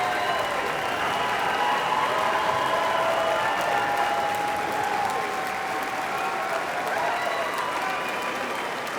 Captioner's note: audience applauding